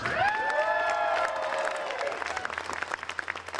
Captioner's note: applause